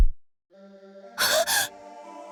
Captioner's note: gasp